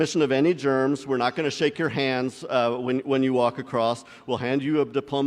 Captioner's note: none